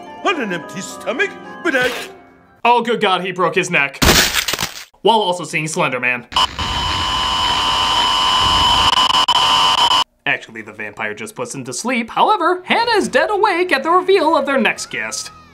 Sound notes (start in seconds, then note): 4.1 neck crack; 6.3 creepy static